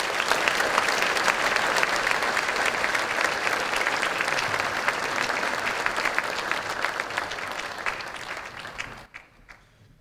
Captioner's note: applause